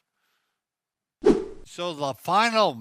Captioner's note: screen whooshes